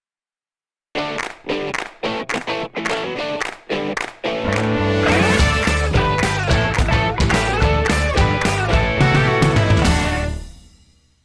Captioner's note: claps